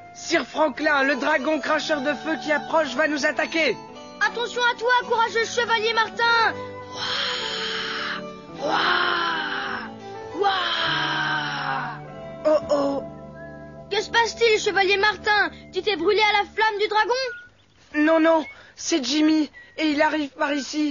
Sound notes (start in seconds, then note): 8.6 imitating the dragon